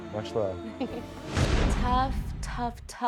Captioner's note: chuckles